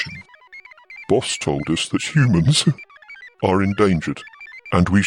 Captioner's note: laughs